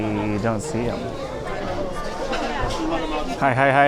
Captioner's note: background chatter continues